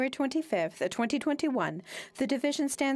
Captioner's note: speaking French